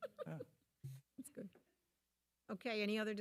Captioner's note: laughing